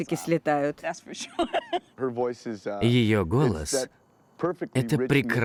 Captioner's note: laughing